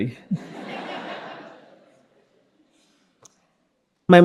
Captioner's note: all laughing